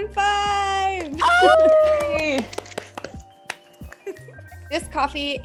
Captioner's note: everyone cheering